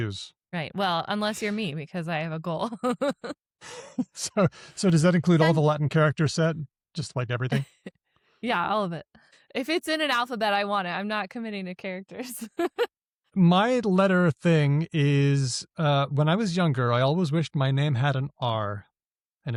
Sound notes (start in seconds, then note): 3.7 chuckles; 3.7 laughs; 13.4 laughs